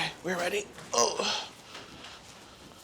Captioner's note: groans